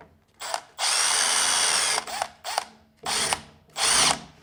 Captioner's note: drill whirring